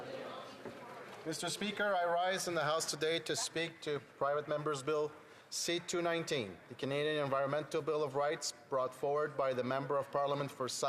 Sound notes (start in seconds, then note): 1.0 speaking French